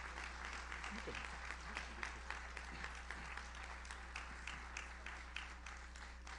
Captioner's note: faintly speaking